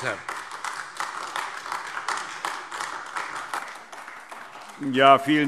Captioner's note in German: Beifall AfD